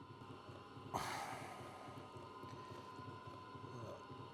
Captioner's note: breathes heavily